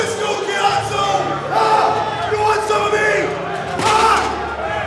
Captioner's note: screams